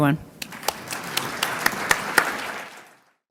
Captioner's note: applause